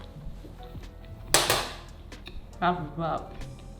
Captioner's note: munching